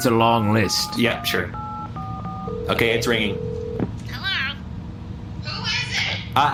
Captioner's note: dialing